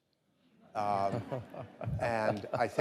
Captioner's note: audience laughing